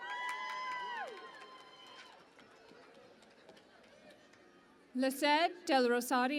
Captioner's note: cheering and Applause